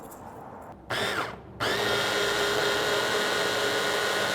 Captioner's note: whirring